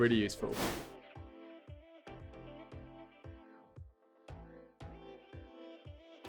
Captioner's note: abrupt swooshing; upbeat music